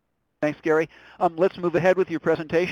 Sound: voiceover

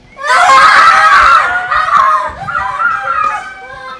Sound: screaming

